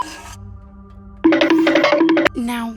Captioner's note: Hanna-Barbera running sounds